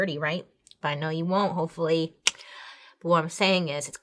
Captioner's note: tongue clicks